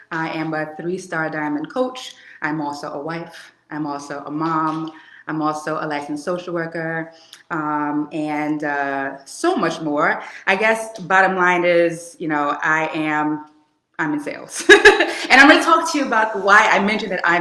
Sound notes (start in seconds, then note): 14.6 laughing